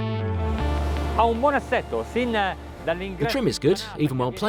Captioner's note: speaking Italian